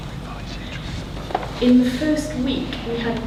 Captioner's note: whispers